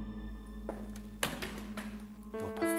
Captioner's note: object clattering